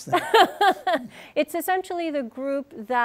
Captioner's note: laughs